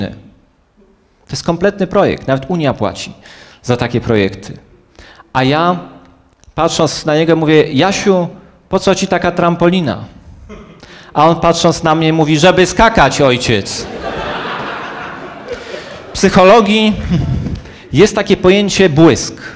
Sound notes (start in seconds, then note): 13.8 laugh